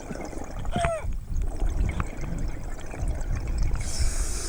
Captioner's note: yelping